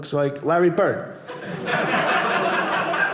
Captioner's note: audience laughing